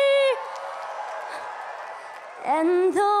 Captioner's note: cheering